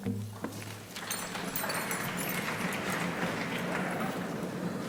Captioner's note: crowd applauding